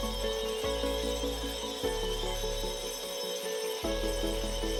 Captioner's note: drilling